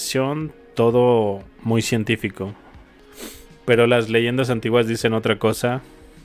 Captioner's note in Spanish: resoplido